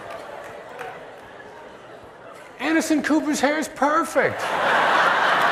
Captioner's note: laughter